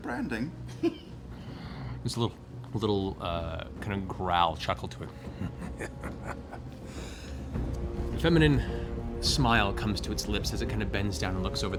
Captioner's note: laughs